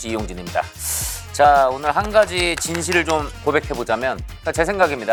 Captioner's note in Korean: 격한 박수